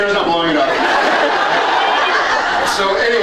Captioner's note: laughs